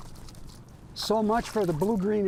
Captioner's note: water splashing